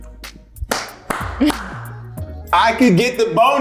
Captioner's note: Karl applauds